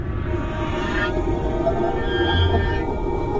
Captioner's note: sub whirring